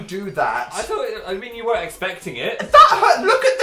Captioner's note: stumbling over words